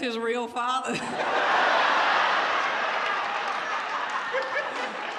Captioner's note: audience laughs